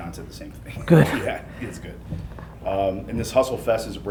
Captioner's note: laughs